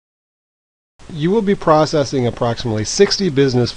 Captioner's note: voiceover